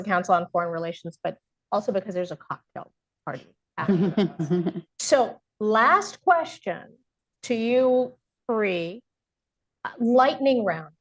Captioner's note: laughter